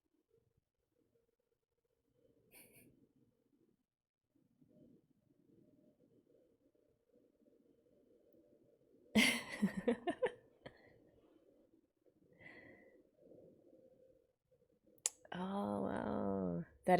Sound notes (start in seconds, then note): 2.6 chuckles; 9.2 laughs